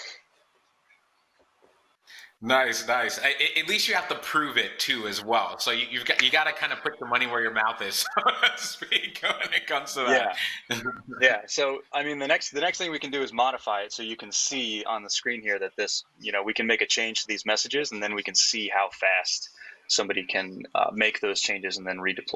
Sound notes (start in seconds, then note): 8.7 laughing